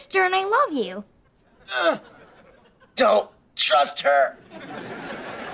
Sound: Jasper groaning

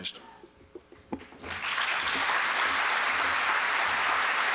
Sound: applause

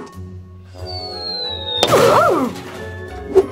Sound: bang

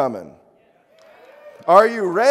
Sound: crowd sporadically cheers

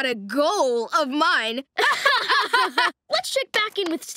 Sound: laughing

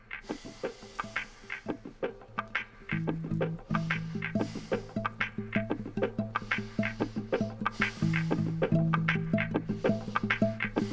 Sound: heavy breathing

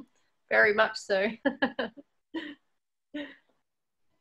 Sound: laughs

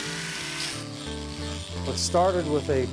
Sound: grinder

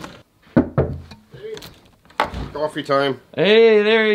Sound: knocking on door

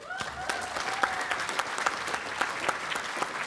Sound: applause

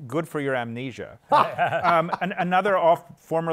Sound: laughter

